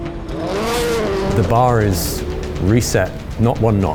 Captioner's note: engine revving